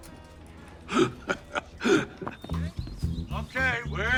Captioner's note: Dwight laughing